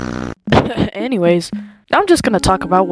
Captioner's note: cough